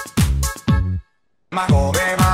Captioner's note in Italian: Silenzio